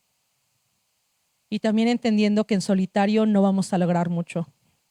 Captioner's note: speaking Zapotec language